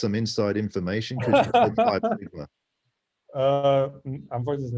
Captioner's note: laughter